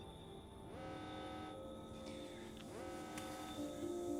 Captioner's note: alarm sound still blaring